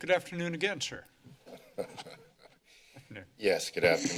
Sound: laughing

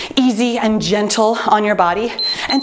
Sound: timer beeps

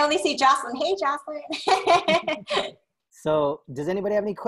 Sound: laughter

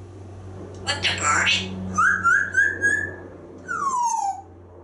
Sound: whistling

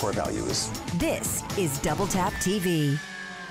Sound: voiceover

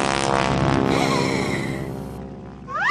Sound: gasps

